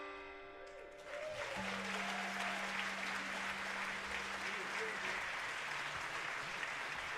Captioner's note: audience applauding; audience cheering